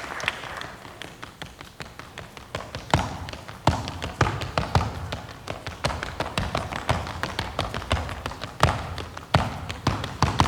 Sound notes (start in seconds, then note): 0.0 audience applauding and cheering; 1.3 tapping